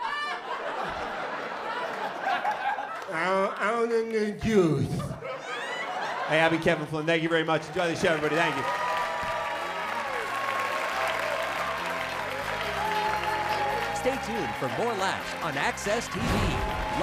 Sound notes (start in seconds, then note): 0.0 laughter; 4.8 laughter; 9.2 applause